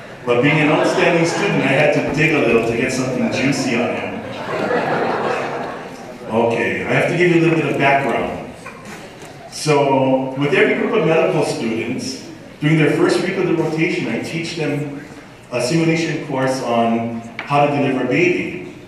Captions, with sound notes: But being an outstanding student, I had to dig a little to get something juicy on him. [laughter] Okay, I have to give you a little background. So, with every group of medical students during their first week of the rotation; I teach them a simulation course on how to deliver a baby.